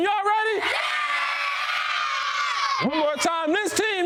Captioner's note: children scream and shout